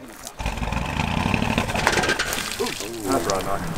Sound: fluids splashing; car engine sputtering

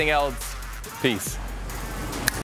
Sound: snaps

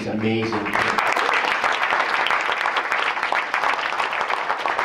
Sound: applause

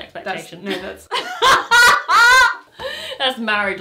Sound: both laugh

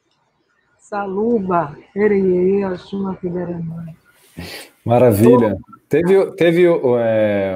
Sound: speaking in Portuguese

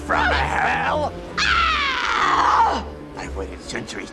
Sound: screams

